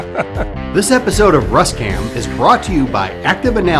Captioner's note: laughter